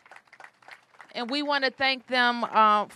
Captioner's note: applause